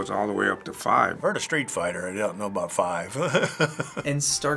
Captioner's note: laughs